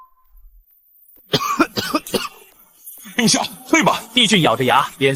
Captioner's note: cough cough